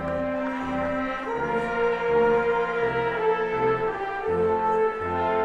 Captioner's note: none